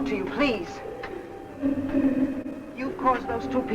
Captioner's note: faint muffled chatter